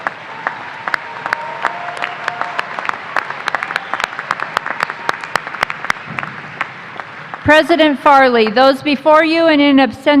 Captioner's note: applause